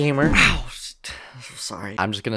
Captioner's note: exhales